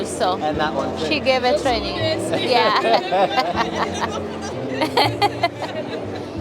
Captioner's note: laughing